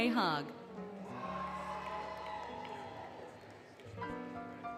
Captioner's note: applause, Cheering, Music